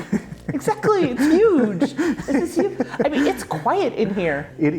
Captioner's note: laughing